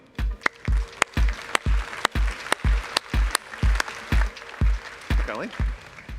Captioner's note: applause